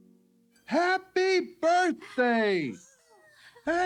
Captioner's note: children gasp